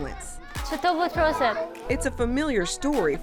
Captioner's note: speaks Dari